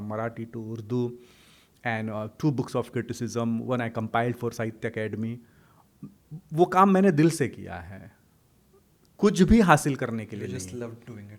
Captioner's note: hindi